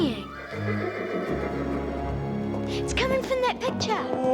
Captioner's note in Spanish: relincho del caballo